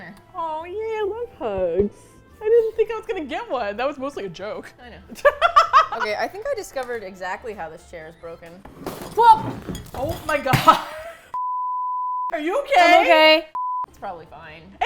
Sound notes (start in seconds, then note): 5.2 laughs; 8.4 shouts